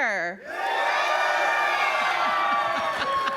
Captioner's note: cheering